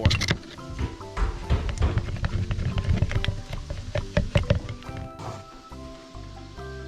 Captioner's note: banging and Stirring